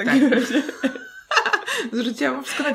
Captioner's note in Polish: śmiech